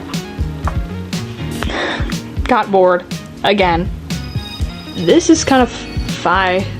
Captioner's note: breathy laugh